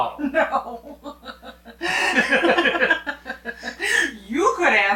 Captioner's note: both laughing; laughing